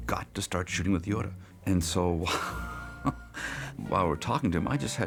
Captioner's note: laughs